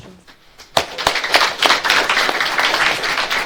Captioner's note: audience claps